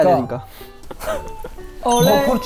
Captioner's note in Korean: 헛웃음